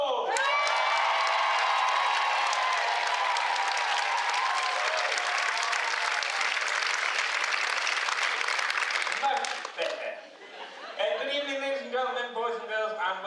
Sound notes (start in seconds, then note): 2.0 cheers